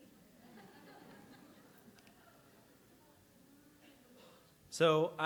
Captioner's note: audience laughs